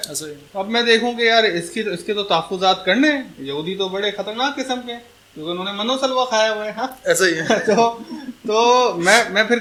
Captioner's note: laughter